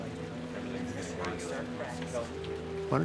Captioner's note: people chattering